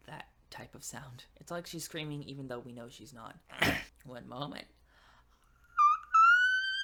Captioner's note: clears throat; demonstrates whistle voice